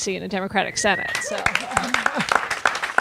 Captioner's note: audience cheers and claps